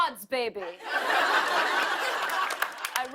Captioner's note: laughter